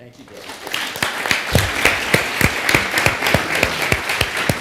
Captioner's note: audience clapping